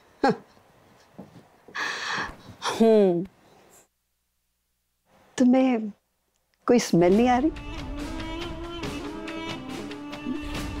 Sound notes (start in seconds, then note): 1.7 Sighs